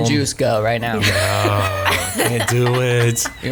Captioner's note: laughs